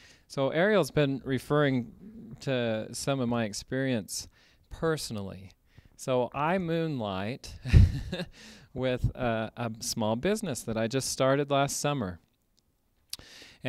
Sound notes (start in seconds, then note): 7.6 laughter